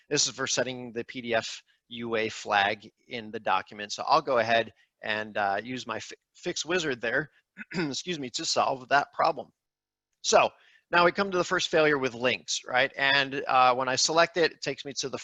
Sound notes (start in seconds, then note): 7.5 clears throat